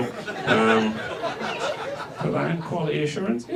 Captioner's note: audience laughs